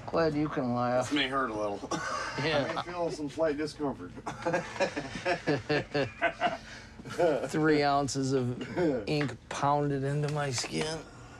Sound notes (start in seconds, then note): 1.9 laughs; 4.2 laughs